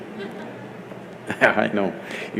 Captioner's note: laughs